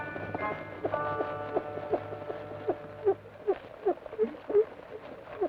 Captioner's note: rocker box squeaks rhythmically